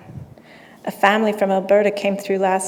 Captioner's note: none